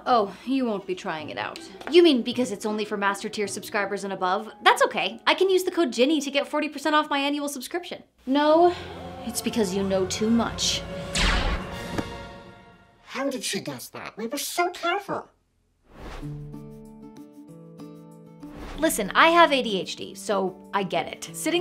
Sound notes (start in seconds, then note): 11.1 laser firing; 11.3 dramatic music; 16.2 light music